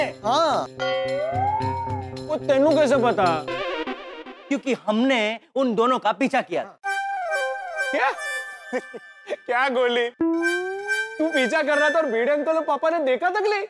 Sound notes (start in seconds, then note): 8.3 laughs